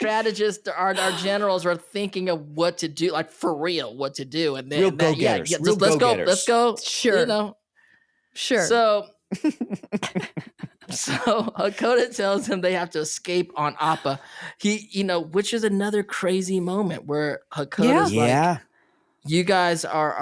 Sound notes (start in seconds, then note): 9.3 chuckling